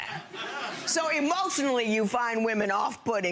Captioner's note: audience laughs